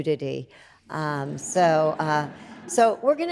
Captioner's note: audience laughs